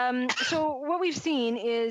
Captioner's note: laughs